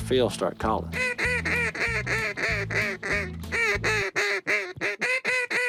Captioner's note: duck calls